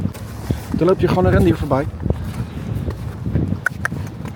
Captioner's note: in Dutch